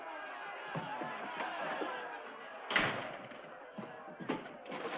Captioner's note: townsfolk clamoring